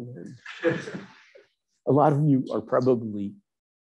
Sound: audience members laughing

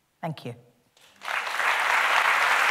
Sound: applause

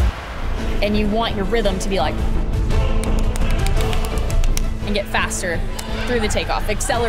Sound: claps

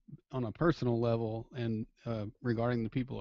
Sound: voiceover

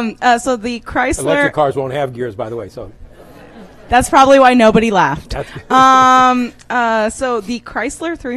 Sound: laughter

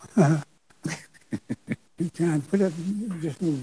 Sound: chuckles

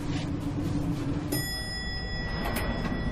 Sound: elevator bell

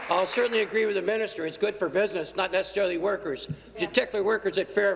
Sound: applause

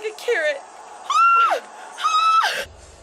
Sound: screams

